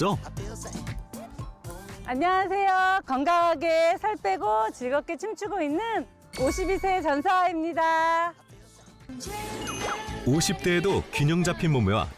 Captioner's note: voiceover